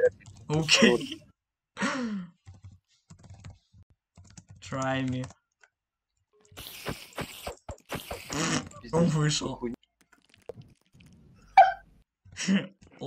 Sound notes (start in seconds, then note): 4.1 typing